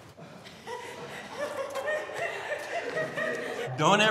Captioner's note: everyone laughing